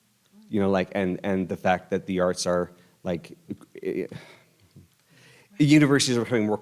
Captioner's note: sighs